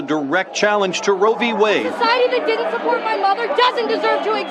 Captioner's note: yelling